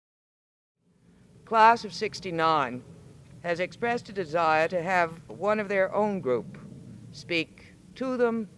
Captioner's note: voiceover